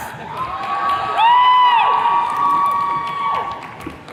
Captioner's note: attendees cheering